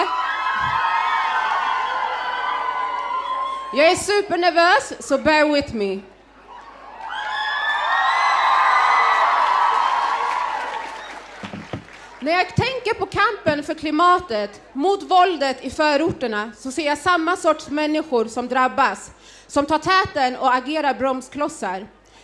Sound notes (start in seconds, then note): 0.0 audience cheering; 6.4 audience cheering